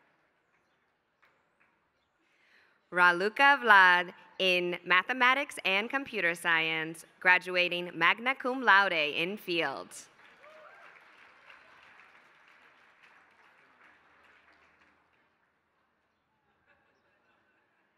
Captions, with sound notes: Raluca Vlad in mathematics and computer science graduating magna cum laude in field. [APPLAUSE]